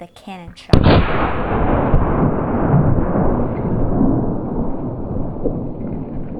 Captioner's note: cannon fires